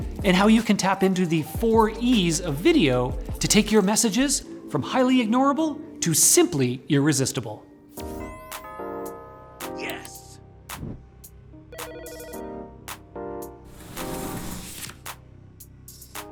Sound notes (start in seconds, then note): 8.0 upbeat music; 11.7 phone ringing; 11.8 upbeat music